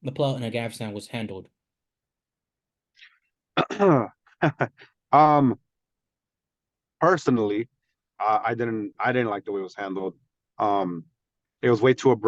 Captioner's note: laugh